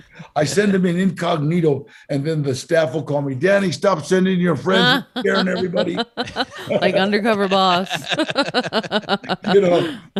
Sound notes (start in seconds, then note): 8.9 laughs